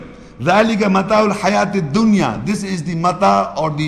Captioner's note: Arabic